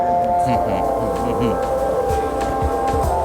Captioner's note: chuckles